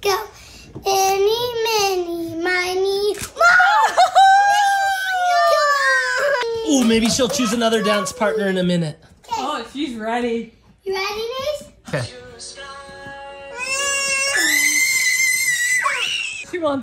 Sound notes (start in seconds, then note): 3.5 cheering; 14.2 screaming